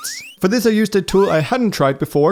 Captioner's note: squeaking